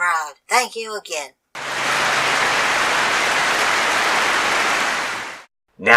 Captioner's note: clapping